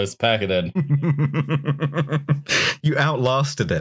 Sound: laughing

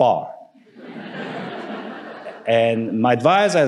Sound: audience laughing

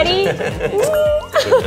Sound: mwah

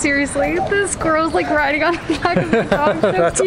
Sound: laughs

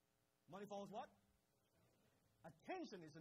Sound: crowd

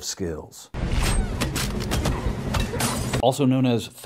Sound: fighting sounds

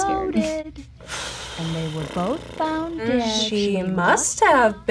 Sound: exhales

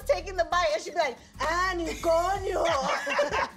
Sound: speaks in a foreign language

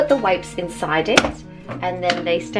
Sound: lid pops up

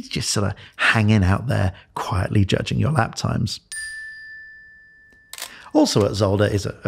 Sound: smile twinkle

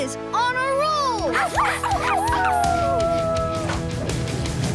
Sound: barking

